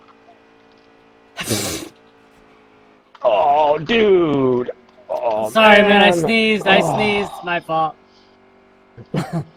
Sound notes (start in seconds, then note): 1.4 sneeze